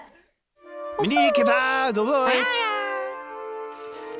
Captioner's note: all speak in gibberish